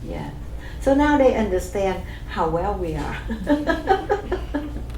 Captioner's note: laughs